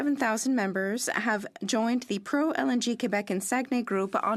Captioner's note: speaking French